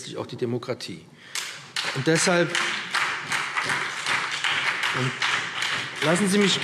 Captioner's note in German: Beifall BÜNDNIS 90/DIE GRÜNEN und SPD